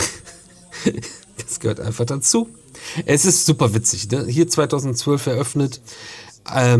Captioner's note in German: gelächter